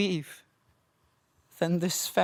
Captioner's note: silence